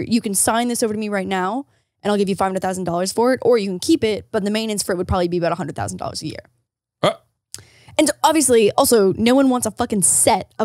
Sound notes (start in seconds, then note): 7.0 gasps